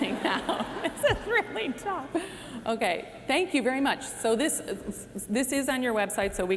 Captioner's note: laughter